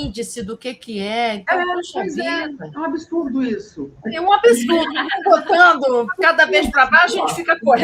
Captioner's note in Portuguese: risadas